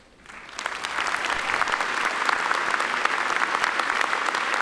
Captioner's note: audience applauding